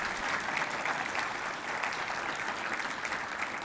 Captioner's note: applause